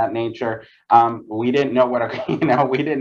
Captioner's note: laughs